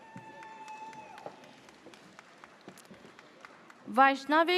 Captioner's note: audience cheers